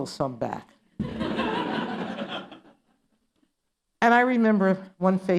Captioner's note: laughter